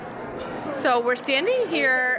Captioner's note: background chatter